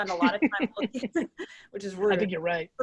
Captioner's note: laughing